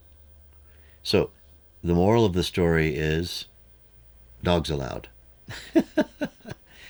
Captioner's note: laughs